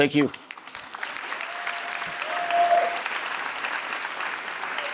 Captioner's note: audience applauding